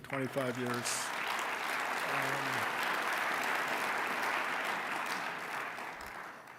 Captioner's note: applause